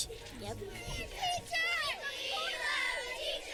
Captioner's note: kids shouting